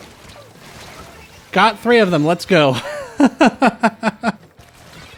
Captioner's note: laughter